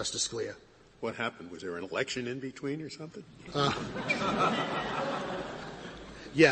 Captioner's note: laughter